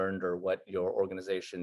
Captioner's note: none